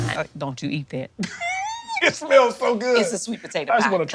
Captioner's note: laughs